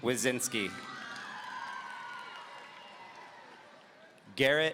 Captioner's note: audience applauding